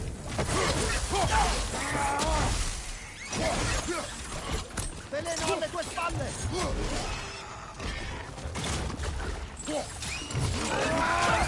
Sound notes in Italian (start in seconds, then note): 1.7 gemito